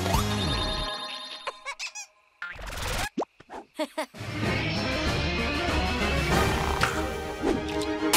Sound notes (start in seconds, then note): 3.8 chuckles